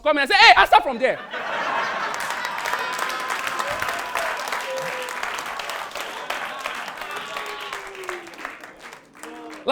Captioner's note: audience applauding